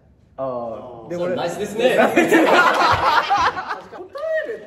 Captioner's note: laughs